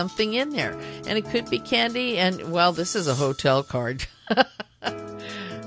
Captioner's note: laughter